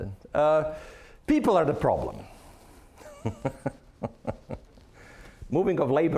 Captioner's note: chuckling